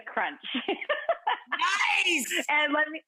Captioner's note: laughing